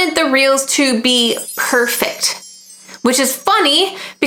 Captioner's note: stars twinkling